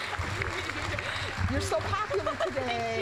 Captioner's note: applause; laughing